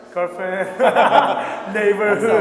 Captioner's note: laughing